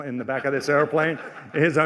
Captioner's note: laughter